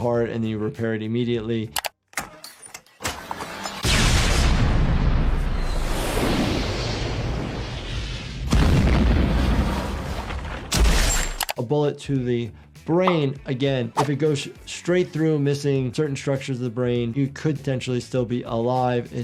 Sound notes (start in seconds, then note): 2.1 metal clanking; 3.8 explosion; 5.7 fire burning; 8.7 explosion; 10.9 gun firing